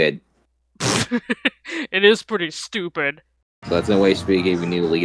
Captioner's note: chortles